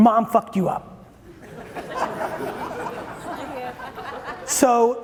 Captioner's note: audience chuckling